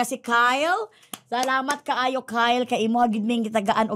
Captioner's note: applauding